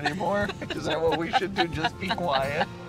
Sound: laughing

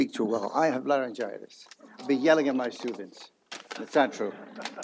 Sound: laughter

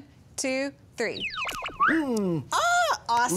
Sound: magical whistling sound

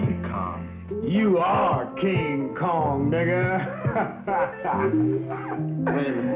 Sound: laughs

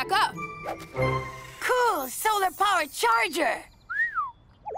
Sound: whistles

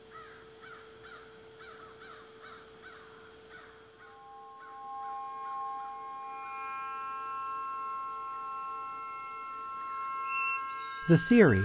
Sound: birds cawing

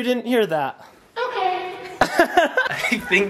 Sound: laughing

